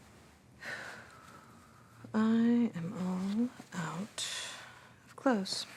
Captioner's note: sighs